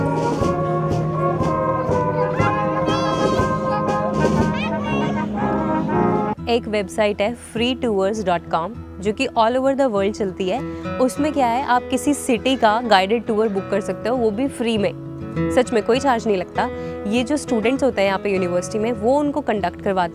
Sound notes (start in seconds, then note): 0.0 instruments being played; 1.8 children shouting; 3.1 instruments being played